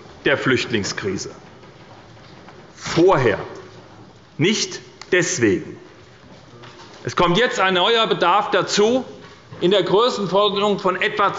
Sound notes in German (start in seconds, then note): none